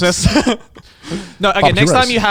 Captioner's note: chuckling